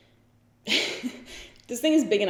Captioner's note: giggles